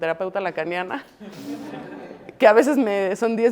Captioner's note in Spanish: Risas